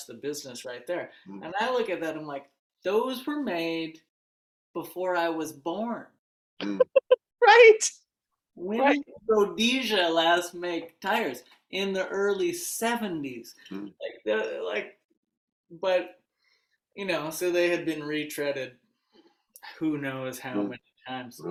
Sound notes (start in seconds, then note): 6.7 laughs